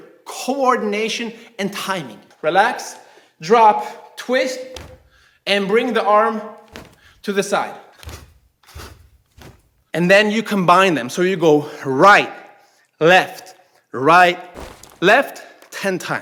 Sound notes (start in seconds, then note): 8.7 snapping